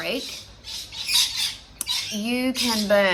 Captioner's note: loud birds